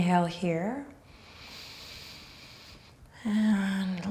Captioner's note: breathing deeply